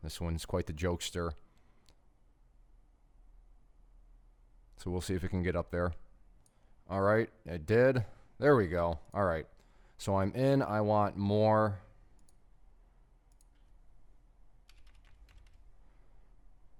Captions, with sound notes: this one's quite the jokester. We'll see if it can get up there. It did, there we go, all right. I'm in, I want more. (clicking)